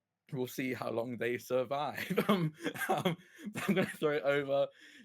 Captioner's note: laughs